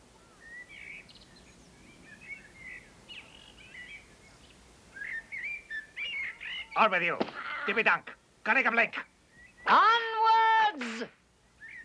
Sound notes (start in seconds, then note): 0.5 birds chirping; 7.1 speaking strange language